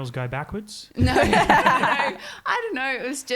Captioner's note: laughing